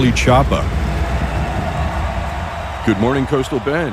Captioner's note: crowd cheering